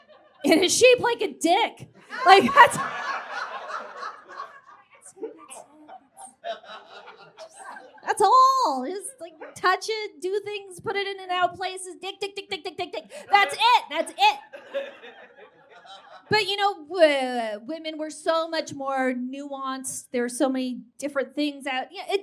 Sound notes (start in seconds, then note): 2.1 audience guffaws